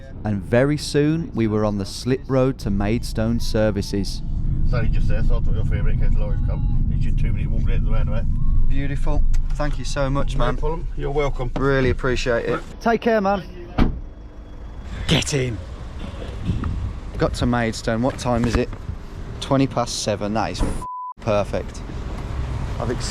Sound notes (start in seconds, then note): 13.8 car door banging